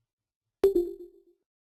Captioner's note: digital pinging